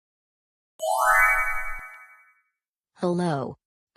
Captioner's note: chimes